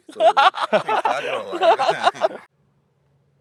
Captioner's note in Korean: 웃음